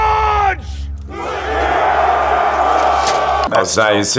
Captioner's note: yelling